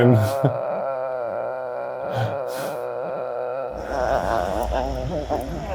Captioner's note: groaning